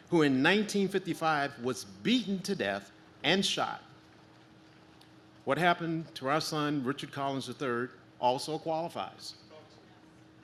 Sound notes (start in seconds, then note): none